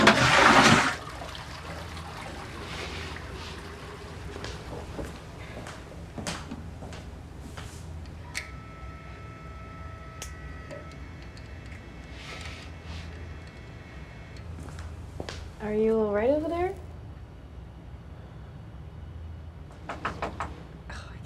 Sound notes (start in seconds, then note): 0.0 toilet flushing; 7.8 Polaroid whirring; 19.9 knock on the door